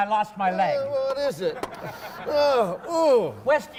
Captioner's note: sniffing